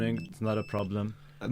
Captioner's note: beep Beeeep